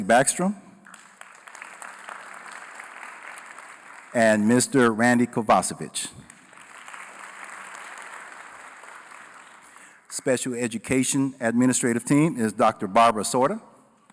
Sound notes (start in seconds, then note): 0.8 applause